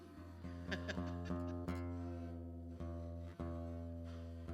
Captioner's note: laughs